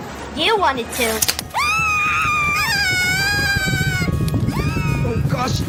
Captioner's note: screaming